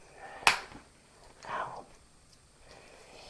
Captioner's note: whispers ow